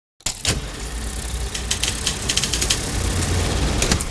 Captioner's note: camera reel whirring